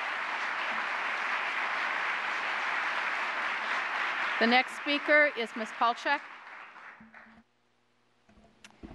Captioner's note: applause